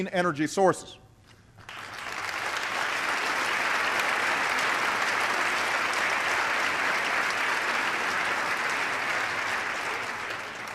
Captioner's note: applause